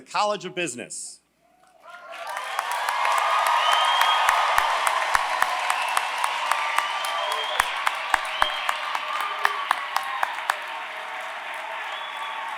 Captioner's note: applause